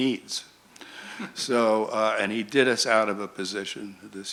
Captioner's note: chuckles